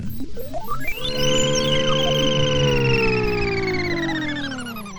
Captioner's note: machine whirring